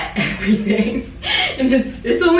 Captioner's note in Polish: Śmiech